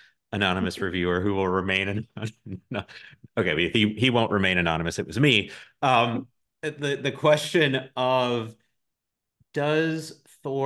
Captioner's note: both giggle